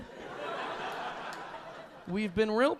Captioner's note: audience laughing